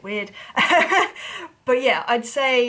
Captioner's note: laughing